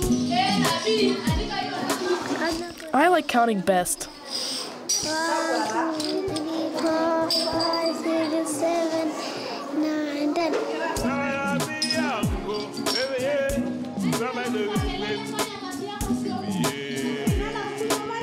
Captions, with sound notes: (upbeat music) (children chattering) -: I like counting best. One, two, three, four, five, six, seven, nine, 10.